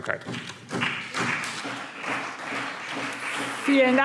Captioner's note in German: Beifall BÜNDNIS 90/DIE GRÜNEN und CDU